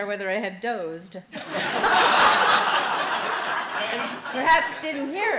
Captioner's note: laughing